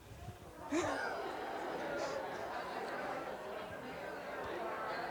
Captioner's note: crowd mumbling indistinctly